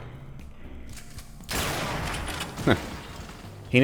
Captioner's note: bam